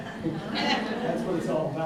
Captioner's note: audience laughing